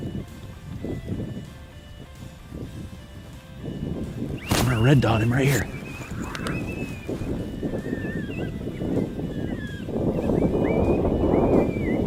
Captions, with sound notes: I'm gonna red dot him right here. (wind blowing)